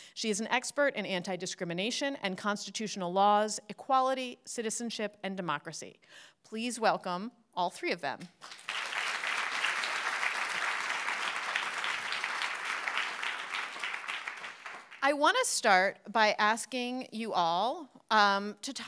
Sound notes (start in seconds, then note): 8.4 audience applauding